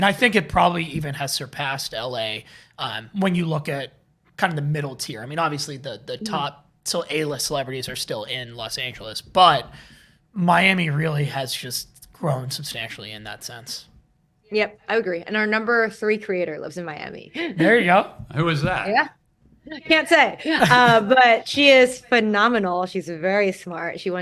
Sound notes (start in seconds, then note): 17.2 laughs